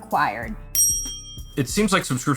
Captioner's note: bell dings